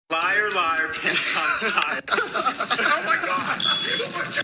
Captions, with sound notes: Liar liar pant’s on fire (Laughs) OH MY GA…….